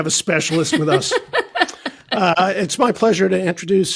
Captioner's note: laughing